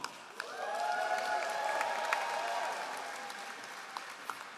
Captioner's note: all applauding